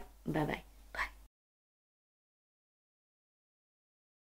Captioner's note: whispers